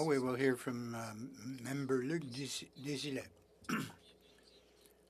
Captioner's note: speaking French